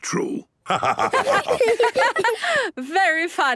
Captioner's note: laughter